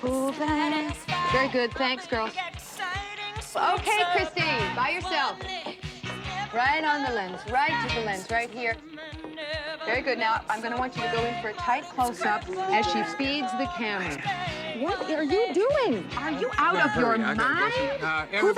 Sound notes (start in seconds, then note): 14.4 whispers